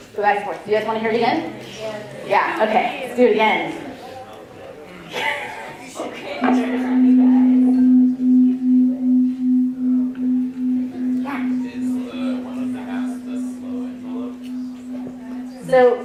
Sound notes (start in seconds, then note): 6.3 tones